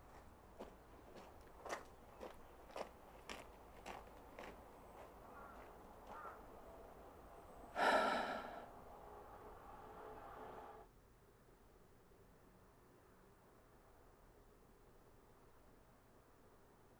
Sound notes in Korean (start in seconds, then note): 0.5 다가오는 발걸음 소리; 7.7 지석 한숨 소리